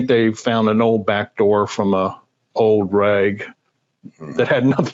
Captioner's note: chuckles